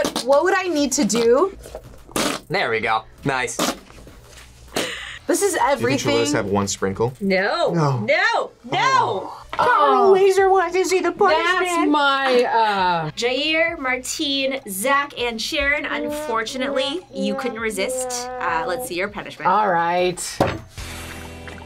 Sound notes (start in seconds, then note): 2.0 whoopee cushion squelches; 17.7 sad trombone music